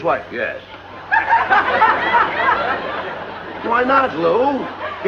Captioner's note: laughter